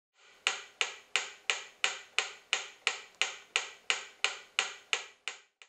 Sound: pendulum ticking

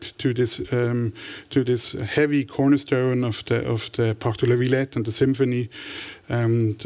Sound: french

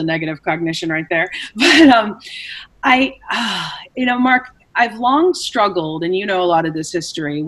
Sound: sighs

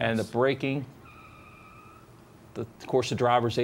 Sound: tires screeching

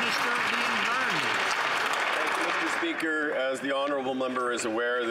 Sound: some Applause

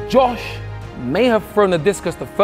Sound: none

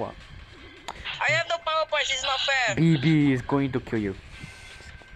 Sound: sus heavy breathing

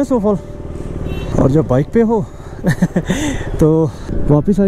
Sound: laughing

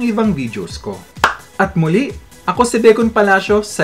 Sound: clap!

